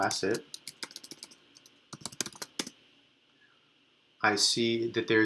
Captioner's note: keyboard clicks